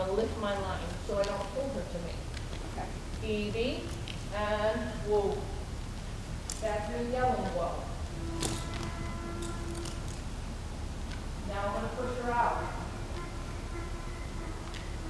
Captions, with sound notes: I'm gonna lift my line so I don't pull her to me. Evie and whoa that's me yelling whoa. [donkey braying ]Now I'm going to push her out, [donkey braying]